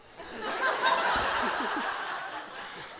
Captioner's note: juliet chuckles